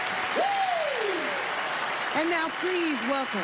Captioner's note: Queen Latifah whoops